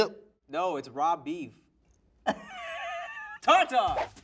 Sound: laughs

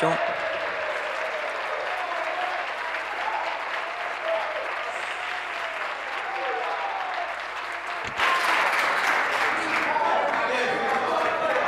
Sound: applause; cheering

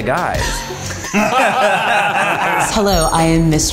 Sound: all laughing

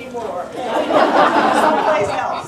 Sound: laughter

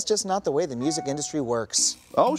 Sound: phone chimes

